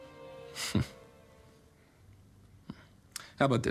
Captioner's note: chuckles